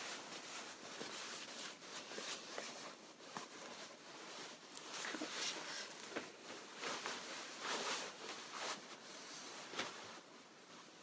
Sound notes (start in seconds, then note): 0.2 fabric rustling; 6.4 fabric rustling